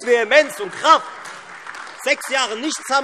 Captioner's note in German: Beifall Freie Demokraten, SPD, AfD und DIE LINKE